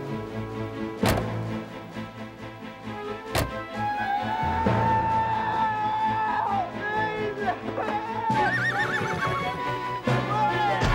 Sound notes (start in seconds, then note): 3.9 Thomas screaming; 8.3 horse neighing